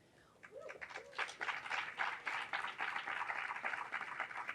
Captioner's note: audience cheering